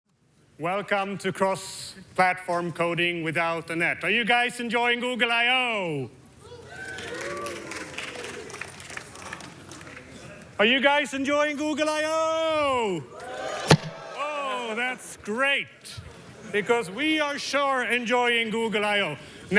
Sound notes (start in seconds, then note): 6.4 tepid applause; 13.1 more enthusiastic applause